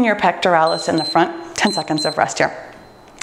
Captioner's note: timer beeps